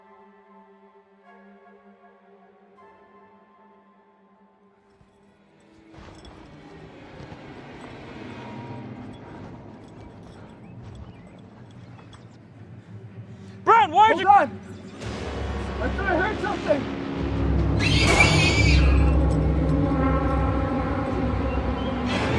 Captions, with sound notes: [suspenseful horror music continues] Brown, why aren't you- Hold on. I thought I heard something. [shriek followed by gunshot] [suspenseful music continues]